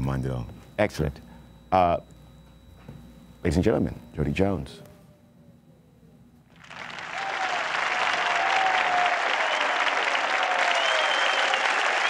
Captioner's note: speaking into walkie talkie